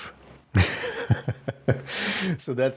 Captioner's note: laughing